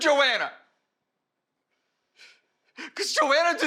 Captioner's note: sobbing